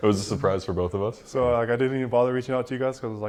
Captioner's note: laughs